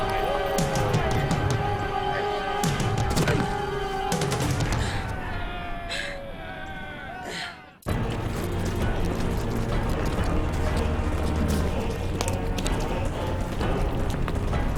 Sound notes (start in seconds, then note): 3.8 thud; 4.8 grunt; 7.8 somber orchestral music